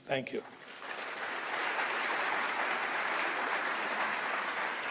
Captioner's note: audience applauds